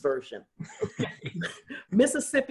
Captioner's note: laughter